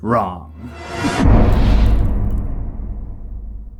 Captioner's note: impact